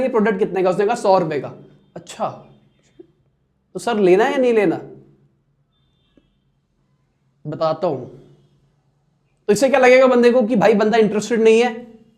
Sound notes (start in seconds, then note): 5.2 delay/silence